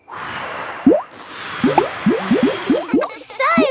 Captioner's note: all blowing